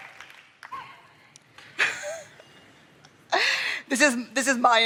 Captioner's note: chuckles